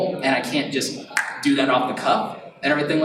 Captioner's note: snaps fingers